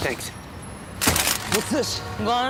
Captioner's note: clank